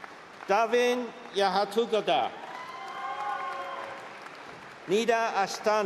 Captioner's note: cheering